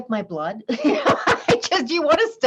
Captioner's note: laughs